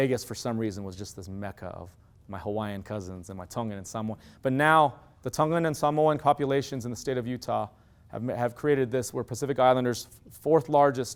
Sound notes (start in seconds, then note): none